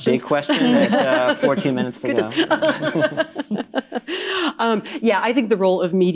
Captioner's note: laughs